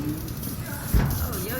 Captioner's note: morgue door slides open